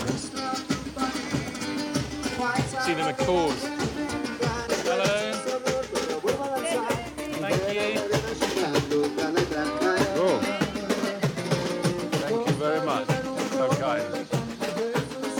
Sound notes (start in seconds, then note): 0.3 upbeat music; 6.4 person speaking in foreign language; 15.2 upbeat music